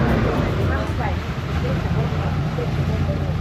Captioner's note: sound from Boat Engine